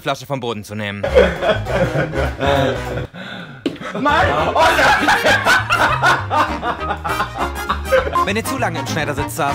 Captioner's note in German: Beide lachen